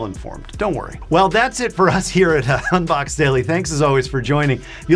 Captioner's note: laughs